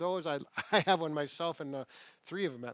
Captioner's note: laughs